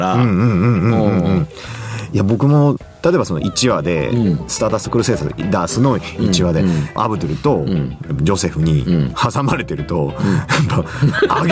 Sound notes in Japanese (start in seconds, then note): 0.0 鼻息